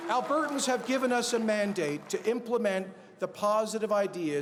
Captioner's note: cheers and Applause